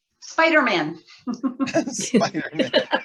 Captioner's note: laughter